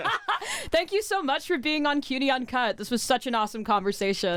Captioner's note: laughs